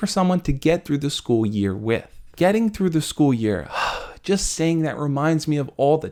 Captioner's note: sigh